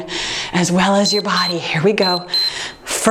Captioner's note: timer beeps